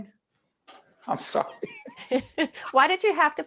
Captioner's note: laughing